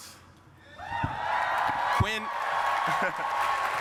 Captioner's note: cheering